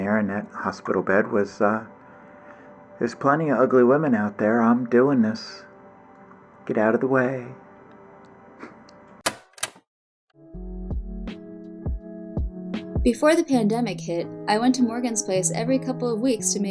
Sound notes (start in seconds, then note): 9.2 tape clicks; 10.4 soft ambient music